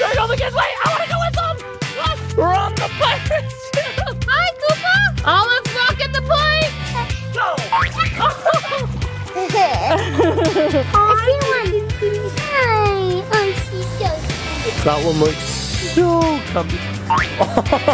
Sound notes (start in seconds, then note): 9.5 laughs